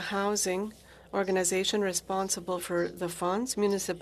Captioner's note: speaking french